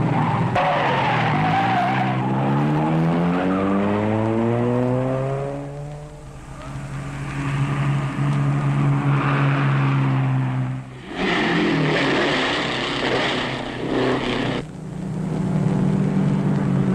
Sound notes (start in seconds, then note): 0.2 engines roaring; 0.2 tires squealing; 6.7 engine roaring; 11.2 engines roaring